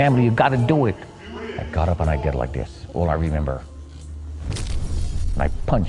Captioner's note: crash